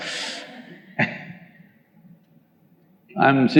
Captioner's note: laughter